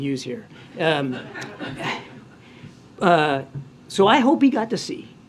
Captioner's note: laughter